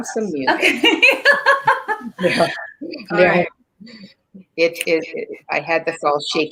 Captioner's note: laughs